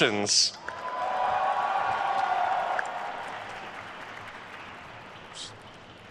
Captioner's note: attendees cheering and applauding